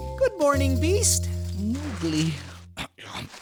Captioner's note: snoring; grunts of sleep; snoring